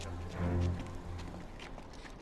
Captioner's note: footstep